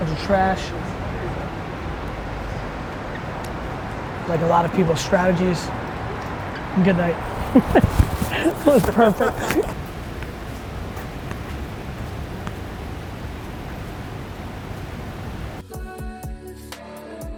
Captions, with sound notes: There's the trash. Like a lot of people's strategies. Good night. (laughs) That was perfect.